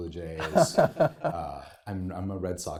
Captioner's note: laughing